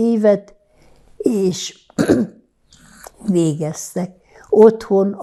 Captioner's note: clears throat